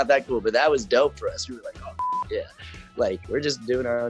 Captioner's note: beep